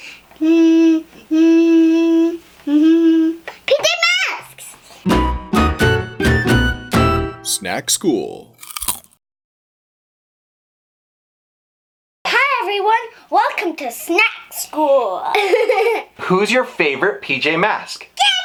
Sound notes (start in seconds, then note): 0.2 humming; 5.0 happy music; 8.5 Crunch